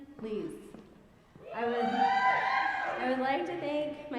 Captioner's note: audience cheering